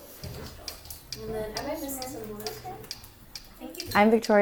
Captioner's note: children chattering